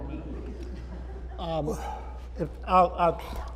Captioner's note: laughter